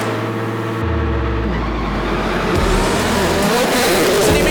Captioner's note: engine revving